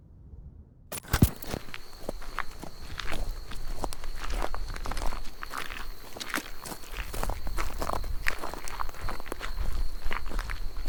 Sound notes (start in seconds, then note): 1.0 camera switch clicks; 1.0 footsteps crunching; 1.0 insects chittering